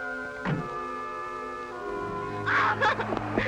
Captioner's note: laughter